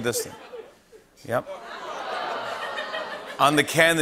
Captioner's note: audience ohhs